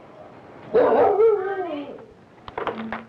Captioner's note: dog barking; door opens